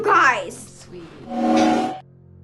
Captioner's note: time stop noise